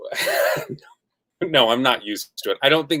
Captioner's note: laughs